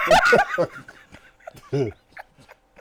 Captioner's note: laughter